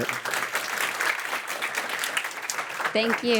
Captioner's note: applause